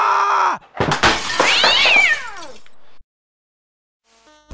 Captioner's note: yelling out loud; the joystick flies, the glass breaks a cat screams in the background